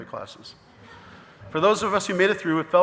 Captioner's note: audience laughing